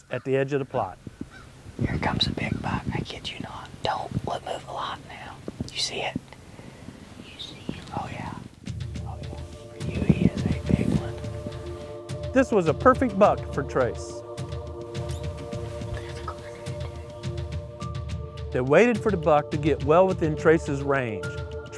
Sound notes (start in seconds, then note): 1.7 whispering; 6.2 whispering; 14.7 whispering